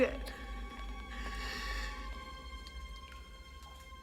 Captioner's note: inhales